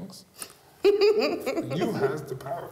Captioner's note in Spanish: risas